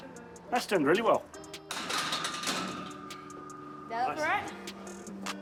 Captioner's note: bar clatters